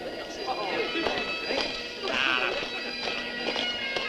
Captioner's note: indistinct chatter